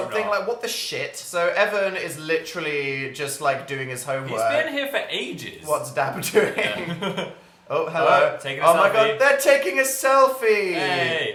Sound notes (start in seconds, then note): 6.1 laughs